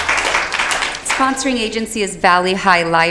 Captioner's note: applause